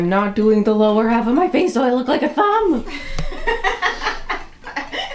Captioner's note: laughter